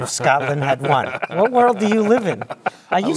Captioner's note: laugh